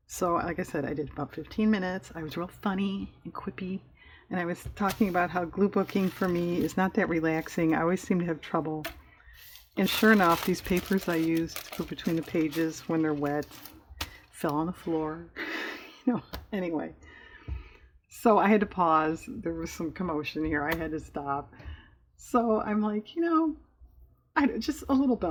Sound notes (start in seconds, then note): 16.1 laughs